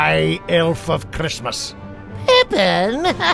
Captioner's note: laughs